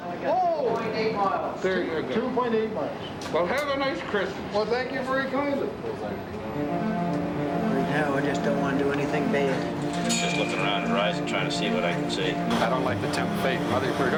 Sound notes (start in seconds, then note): 9.5 bell chiming